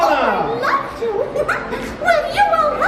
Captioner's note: giggles